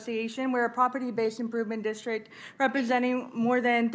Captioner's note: speaking Spanish